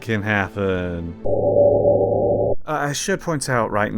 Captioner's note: ominous wooshing